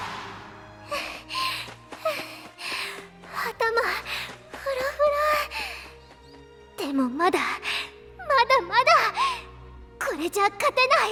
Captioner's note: huff